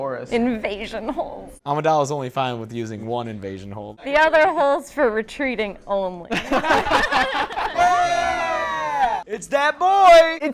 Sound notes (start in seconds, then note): 6.3 laughter; 7.5 cheering for Jar Jar